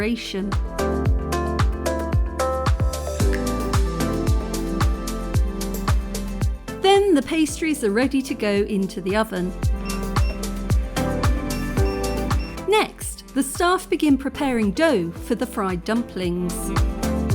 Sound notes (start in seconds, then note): 1.1 upbeat music; 11.4 oven beeping